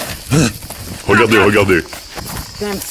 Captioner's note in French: Voix très grave